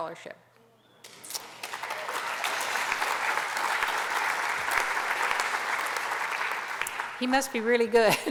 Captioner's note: applause